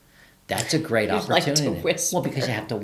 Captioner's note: laughs